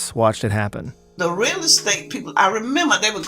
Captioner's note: soundbite of archived recording